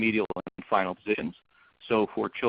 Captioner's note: audio becomes choppy